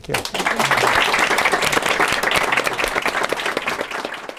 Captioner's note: applause